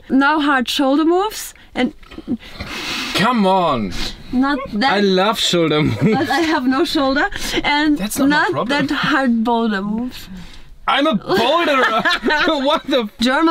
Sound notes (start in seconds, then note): 4.4 laughs